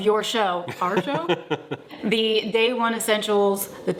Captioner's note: laughs